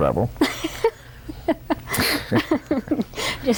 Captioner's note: laughter